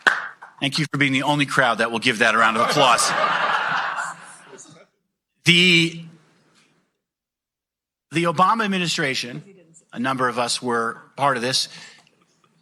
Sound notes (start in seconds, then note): 2.5 laughing